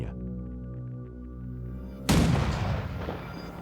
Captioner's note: cannon firing